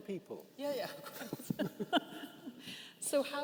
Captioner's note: participants laughing